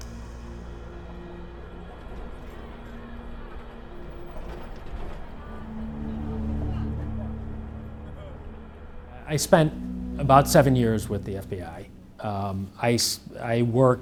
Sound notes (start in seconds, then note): 3.5 people murmuring; 3.5 traffic humming